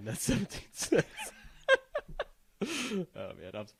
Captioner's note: laughing